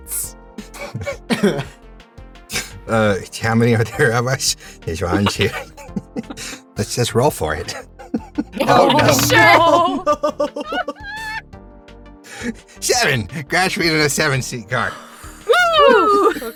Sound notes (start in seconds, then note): 11.1 EVERYONE groans